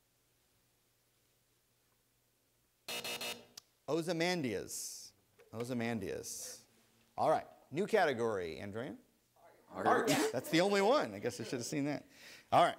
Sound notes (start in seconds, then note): 2.8 buzzer